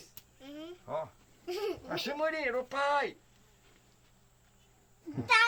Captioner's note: speaking Yanomami; child speaking Yanomami